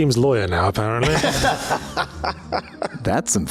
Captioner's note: laughs